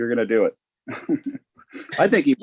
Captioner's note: laughing